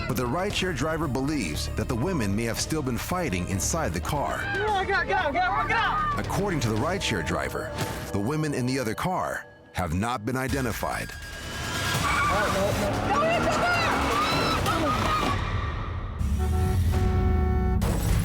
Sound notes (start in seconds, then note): 11.9 tires squealing; 16.3 car horn honks